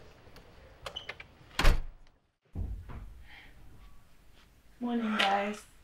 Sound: door slams shut

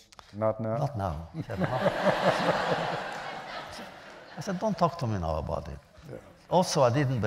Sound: laughter

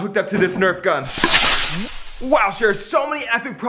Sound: rocket whirring

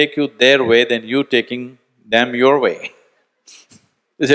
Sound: laughs

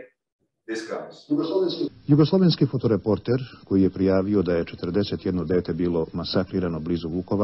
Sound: news anchor speaking in foreign language

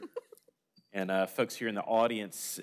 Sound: laughter

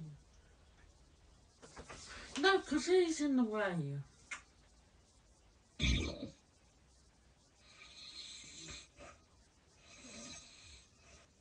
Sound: hilarious snore

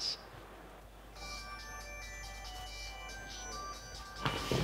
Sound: phone rings

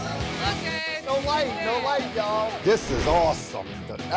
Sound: crowd talking over each other

